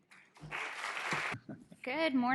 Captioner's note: audience applauding